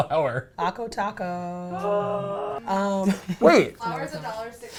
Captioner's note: laughs